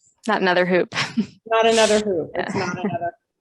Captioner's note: laughs